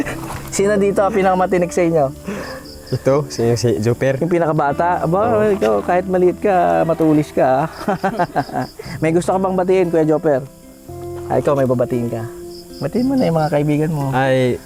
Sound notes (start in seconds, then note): 6.6 laughs